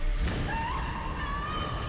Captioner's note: woman screams echoing